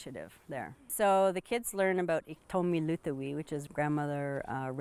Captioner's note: non-english